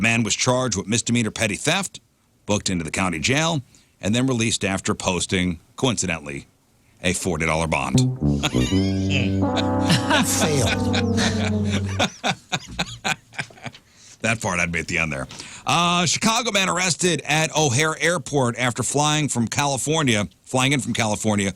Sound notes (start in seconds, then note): 8.0 laugh